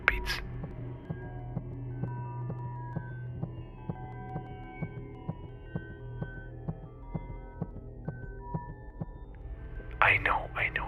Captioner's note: heartbeats